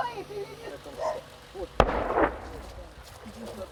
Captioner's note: explosion booms nearby